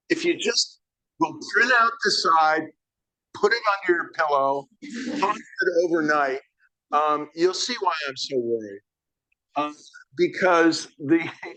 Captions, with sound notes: if you just print out the side, put it under your pillow, (audience laughing) (speaks faintly) overnight, you'll see why I'm so worried because the,